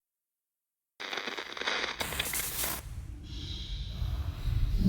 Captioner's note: static buzzing